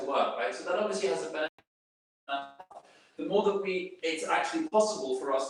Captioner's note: video skipping